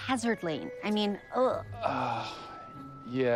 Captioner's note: sighs